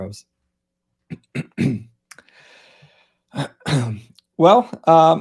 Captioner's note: clearing throat